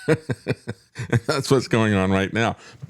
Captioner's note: laughs